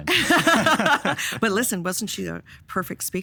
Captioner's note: all laughing